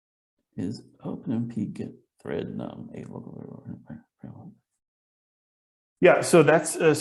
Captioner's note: speaks softly